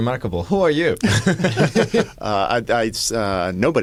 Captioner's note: laughter